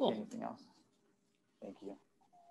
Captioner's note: faintly speaking